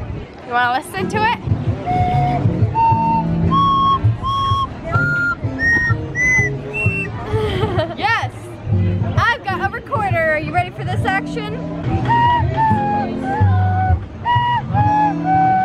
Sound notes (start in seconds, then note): 1.8 harmonica playing; 7.1 laughing; 11.9 recorder playing